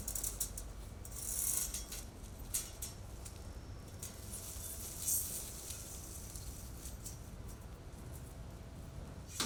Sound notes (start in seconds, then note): 1.5 metal creaking